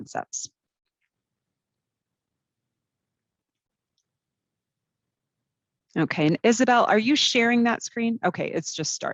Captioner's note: brief silence